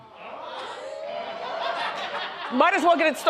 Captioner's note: audience oohs and ahhs